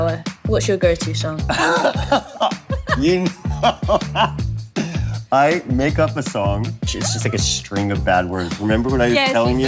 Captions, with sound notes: (LAUGHS) You know that! I make up a song. It's just like a string of bad words. Remember what I was telling you?